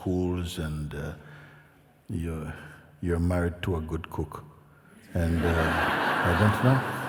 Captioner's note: laughter